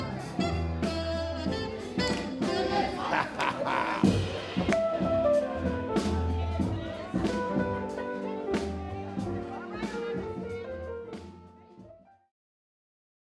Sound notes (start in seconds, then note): 3.3 laughs; 7.4 upbeat music